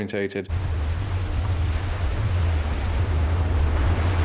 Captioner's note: waves lapping